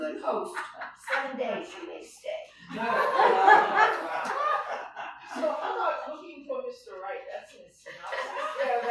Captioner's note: laughter